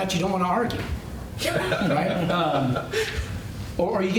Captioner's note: laughter